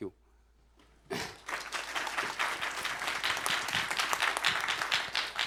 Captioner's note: applause